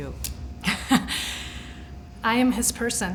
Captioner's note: laughs